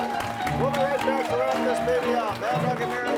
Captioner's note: crowd clapping